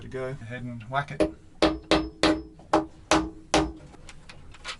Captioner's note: hammer tapping